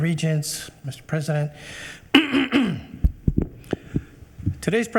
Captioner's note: clears throat